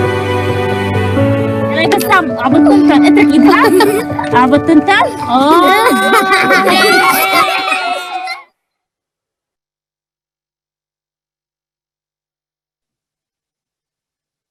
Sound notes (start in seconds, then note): 1.8 speaking foreign language; 3.0 children laughing